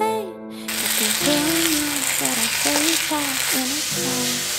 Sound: sizziling stirffry

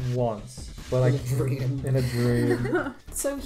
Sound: laughing

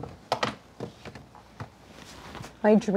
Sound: baking sheet sliding

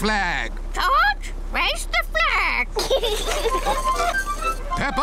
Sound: children giggle

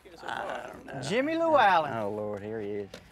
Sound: laughs

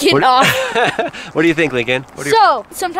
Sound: laughs

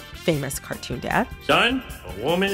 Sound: soundbite of tv show, "the simpsons"

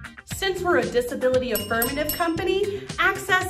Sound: bell sound effect

